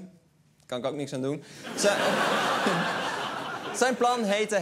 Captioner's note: laughter